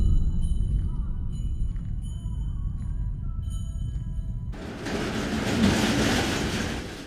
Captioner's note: bells jingling